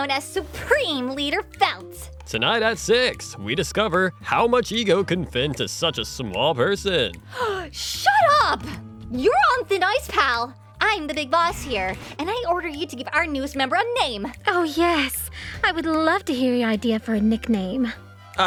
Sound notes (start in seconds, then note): 7.2 gasp